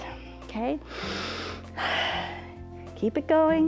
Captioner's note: inhales and exhales